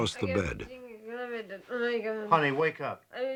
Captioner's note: mumbling